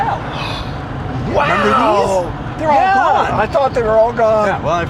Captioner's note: gasps